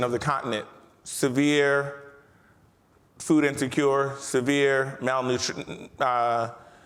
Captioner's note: stutters